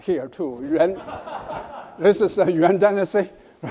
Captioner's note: audience laughs